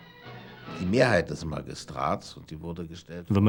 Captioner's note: speaking german